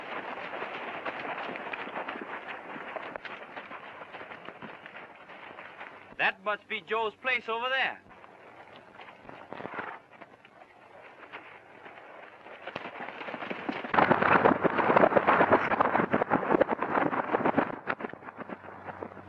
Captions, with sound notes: That must be Joe's place over there. (hooves clomping)